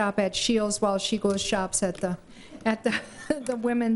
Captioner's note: laughter